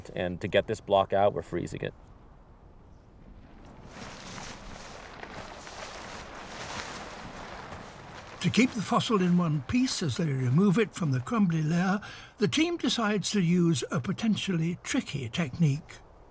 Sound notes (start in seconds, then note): 3.8 plastic rustles